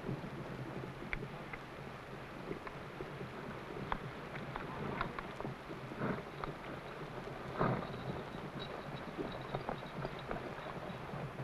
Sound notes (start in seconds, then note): 0.3 horse hooves pattering; 5.7 horses snorting